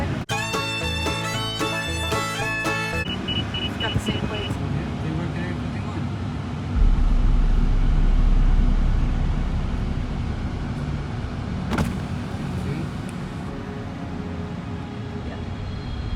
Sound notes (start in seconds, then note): 0.2 gentle rock music; 3.0 radar detector beeping; 11.7 car window buzzing